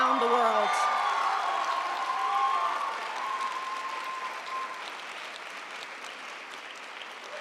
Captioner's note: audience cheering; audience applauding